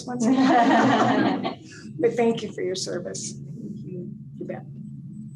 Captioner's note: laughter